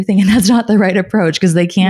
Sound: laughing

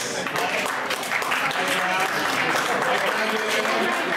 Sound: applause

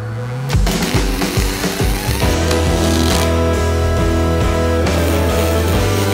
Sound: soft rock music; welding machine crackling; welding machine buzzing

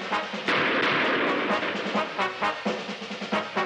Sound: gun firing

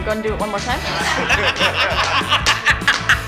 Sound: laughter

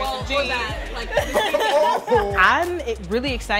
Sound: all laugh

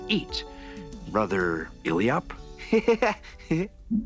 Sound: laughs

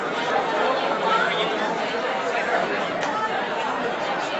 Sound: audience chattering

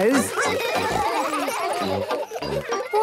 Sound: children giggling

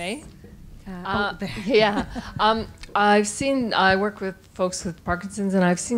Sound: laughing

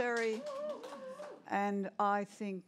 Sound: cheering

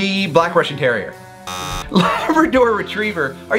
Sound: alarm buzzes

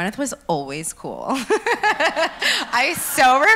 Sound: laughs

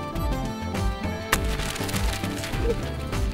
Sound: papers flying; drawer opens

